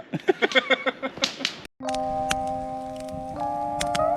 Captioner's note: laughing; soft music